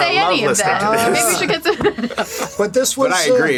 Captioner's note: laughs